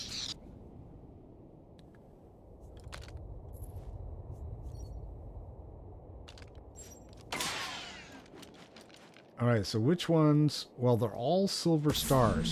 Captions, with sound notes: (gun firing) All right, so which ones, well, they're all silver stars.